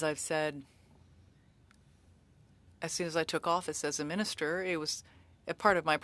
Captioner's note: speaking French